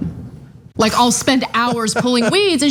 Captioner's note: laugh